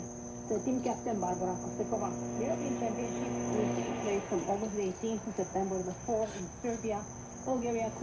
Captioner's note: audio on shortwave radio